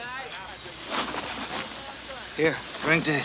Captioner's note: chain clinks